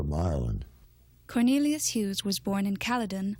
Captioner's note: voiceover